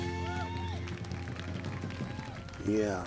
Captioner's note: cheers and applause